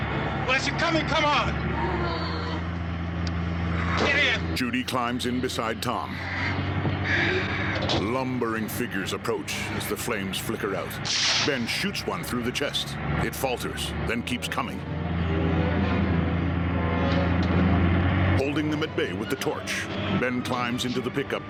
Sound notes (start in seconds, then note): 7.0 creatures groaning; 11.1 gunshot